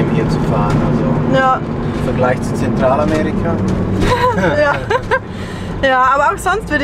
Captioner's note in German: lacht